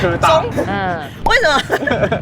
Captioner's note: all groans